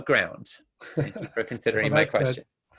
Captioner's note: both laugh